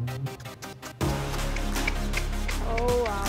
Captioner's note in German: Schnalzen